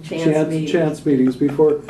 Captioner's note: laughter